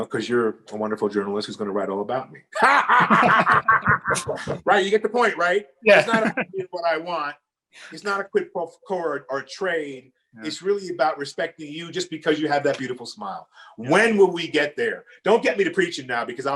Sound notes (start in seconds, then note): 2.5 laughing; 5.9 chuckles